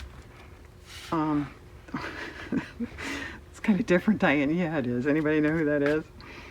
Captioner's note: laughs